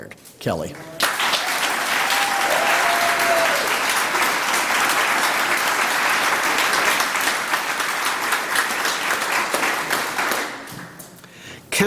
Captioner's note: applause